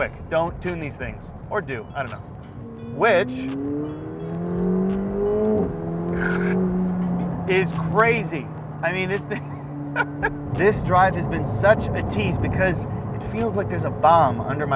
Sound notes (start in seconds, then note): 3.8 car engine revving; 9.9 laughing